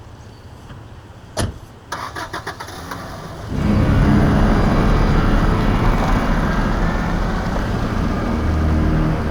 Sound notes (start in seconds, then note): 1.9 engine starting; 3.5 ominous orchestral music